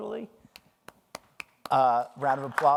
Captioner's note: clapping